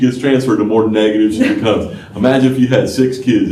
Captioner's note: laughter